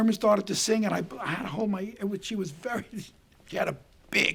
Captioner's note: chuckling